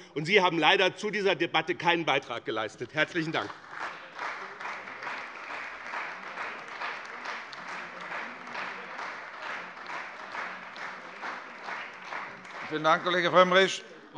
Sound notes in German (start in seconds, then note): 3.0 Lebhafter Beifall bei dem BÜNDNIS 90/DIE GRÜNEN und der CDU